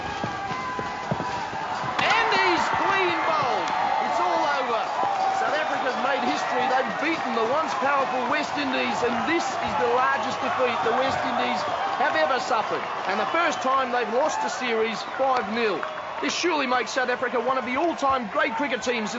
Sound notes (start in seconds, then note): 2.0 cracking